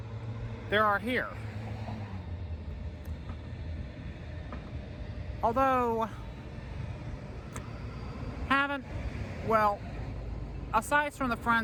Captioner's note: stammering